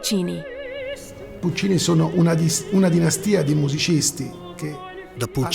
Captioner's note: speaking Italian